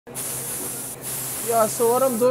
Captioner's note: gas hissing